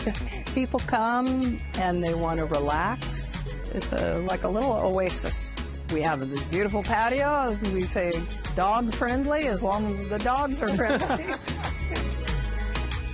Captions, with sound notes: People come, and they want to relax. It's like a little oasis. We have this beautiful patio. We say dog friendly as long as the dogs are friendly. [ Laughter ]